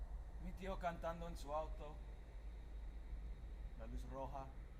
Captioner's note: speaking Spanish